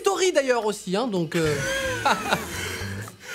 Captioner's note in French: rire et moquerie générale